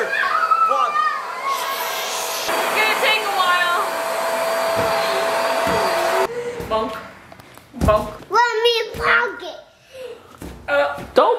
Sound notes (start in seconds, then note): 0.0 screams; 1.1 air pump blows; 1.5 shushes